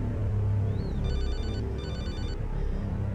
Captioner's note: phone Rings